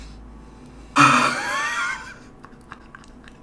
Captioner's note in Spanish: suspiro